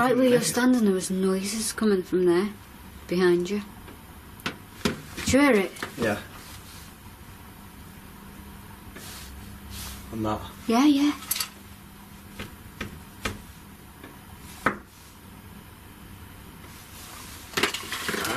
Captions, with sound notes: - Right where you're standing, there was noises coming from there, behind you. (tapping) Did you hear it? - Yeah. And that. - Yeah yeah. (knocking)